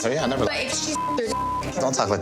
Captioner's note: beep